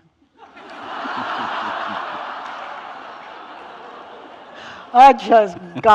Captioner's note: audience laughing